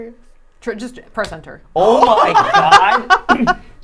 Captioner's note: gasps; laughing